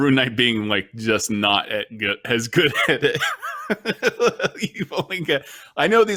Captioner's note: laughs